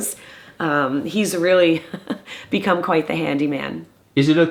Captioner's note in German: lacht